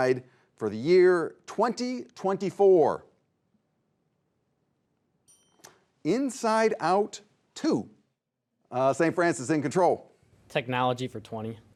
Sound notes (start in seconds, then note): 5.2 bell dings